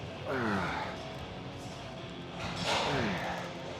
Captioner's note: Sheamus grunting